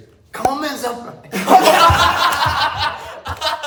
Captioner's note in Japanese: 笑い声